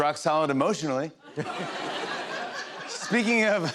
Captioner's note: laughter